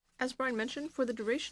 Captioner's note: speaking French